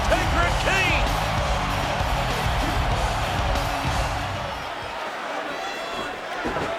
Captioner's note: upbeat music; crowd cheering